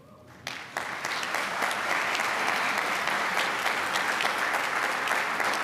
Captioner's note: applause